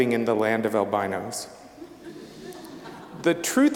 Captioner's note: audience laughing